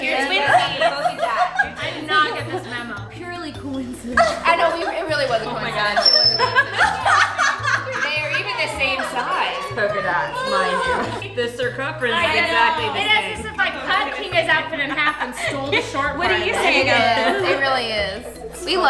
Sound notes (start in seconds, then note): 6.8 laughing